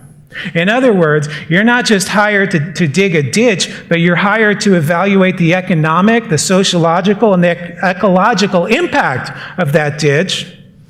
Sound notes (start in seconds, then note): none